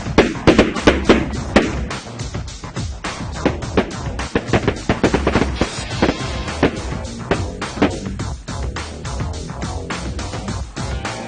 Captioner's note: shotguns blast